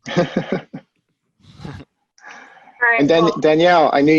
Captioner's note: chuckles